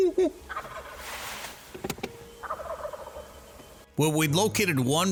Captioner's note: imitates gobbling; turkeys imitating